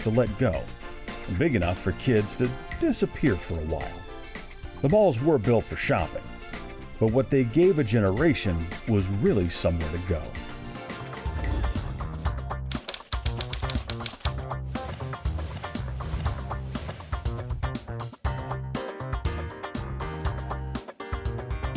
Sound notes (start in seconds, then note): 9.7 upbeat music; 12.6 bright music; 12.7 typewriter clacks